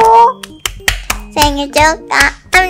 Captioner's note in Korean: 짝짝짝